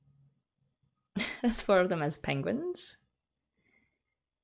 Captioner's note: laughs